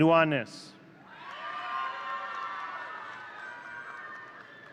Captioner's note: audience cheering